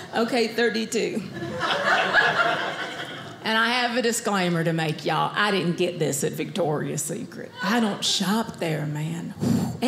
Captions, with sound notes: Okay, 32 (audience laughing) and I have a disclaimer to make y'all, I didn't get this at Victoria's Secret. I don't shop there, man.